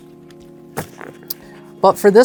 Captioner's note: thumps cards